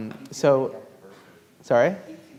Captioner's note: speaking faintly